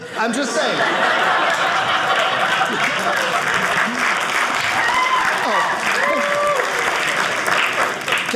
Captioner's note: audience applauding